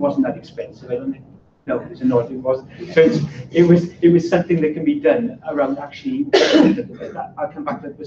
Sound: laughter

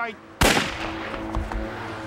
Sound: gunshot

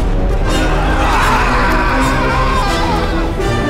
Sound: screaming

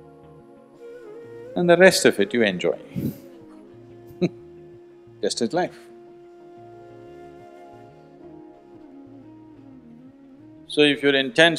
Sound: laughs

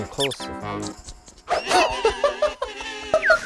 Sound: popping

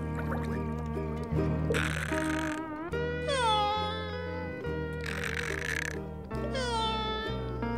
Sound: snoring

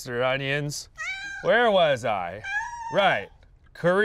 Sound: cat meows

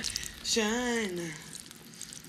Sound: urinating

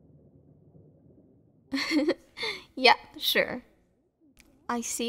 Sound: soft laugh

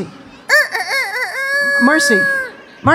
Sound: clucking

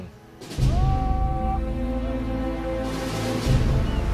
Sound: shouting

